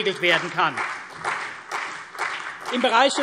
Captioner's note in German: Beifall CDU und vereinzelt BÜNDNIS 90/DIE GRÜNEN